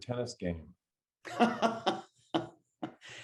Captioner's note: laughing